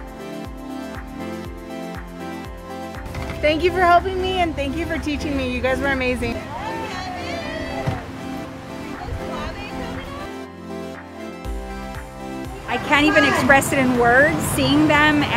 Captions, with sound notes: - Thank you for helping me and thank you for teaching me. You guys were amazing. (girls cheering) (happy music) - I can't even express it in words, seeing them,